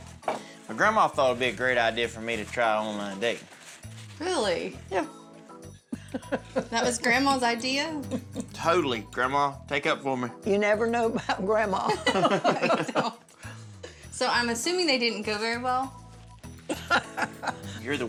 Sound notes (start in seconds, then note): 8.0 chuckling; 10.3 giggles